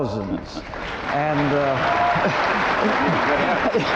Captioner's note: audience applauding